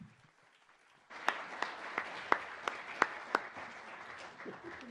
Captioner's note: audience applauds